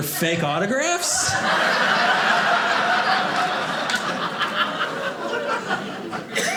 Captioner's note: audience laughing